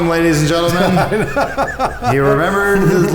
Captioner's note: laughs